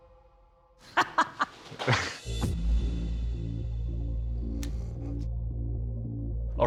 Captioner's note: laughs